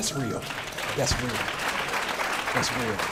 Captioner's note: clapping